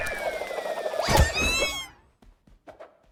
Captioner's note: wails, screams